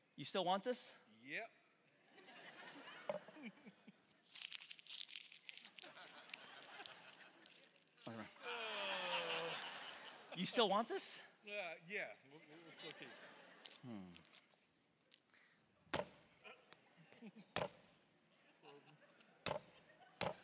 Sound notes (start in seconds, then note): 2.1 congregation laughing; 3.3 laughing; 4.2 crinkling money; 8.4 congregation laughing; 15.9 stomping; 16.9 congregation laughing